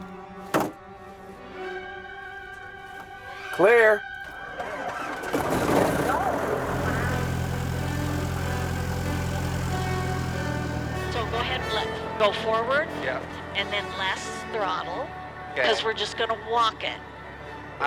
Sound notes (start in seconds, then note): 0.4 plane door slams; 4.1 plane engine roaring